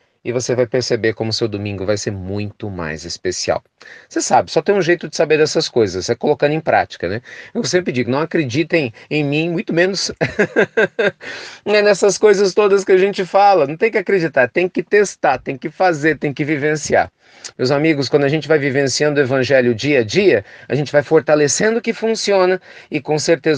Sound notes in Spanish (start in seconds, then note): 10.2 risas